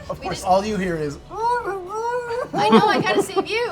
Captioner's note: muffled cries